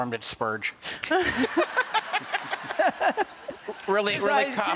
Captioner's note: laughter